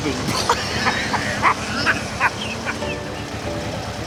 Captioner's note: they laugh